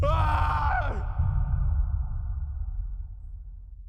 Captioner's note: soldier screams in terror; screams again